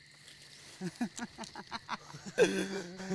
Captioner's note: laughing